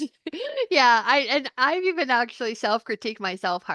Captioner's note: laughs